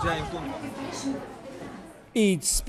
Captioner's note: people speaking in foreign language